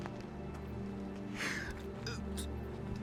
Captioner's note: crying